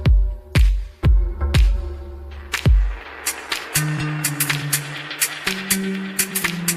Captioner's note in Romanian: Aplauze